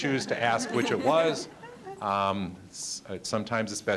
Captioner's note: audience laughing